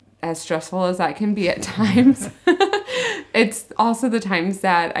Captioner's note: laughs